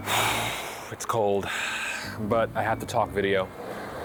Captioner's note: sighs; skateboard grinds on street